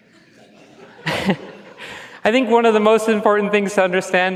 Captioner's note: chuckles; laughs